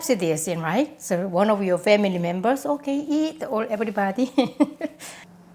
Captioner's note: laughs